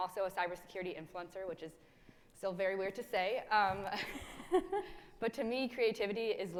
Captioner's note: chuckles